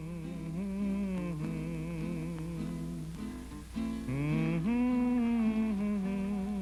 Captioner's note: humming; guitar strumming